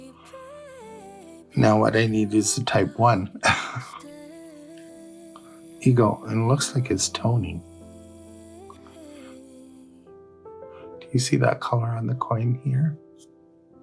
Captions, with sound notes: now what i need is a type one (scoff) eagle - and looks like it's toning do you see that color on the coin here